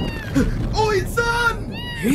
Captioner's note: meowing